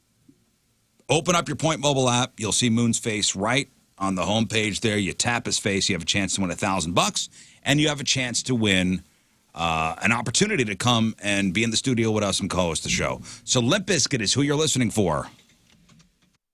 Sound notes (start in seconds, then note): none